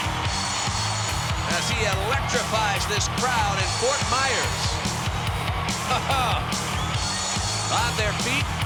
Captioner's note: laugh